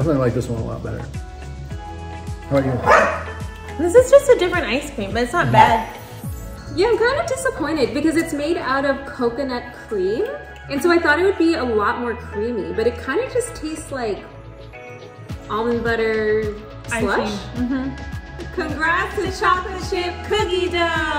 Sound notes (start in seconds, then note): 2.8 dog barks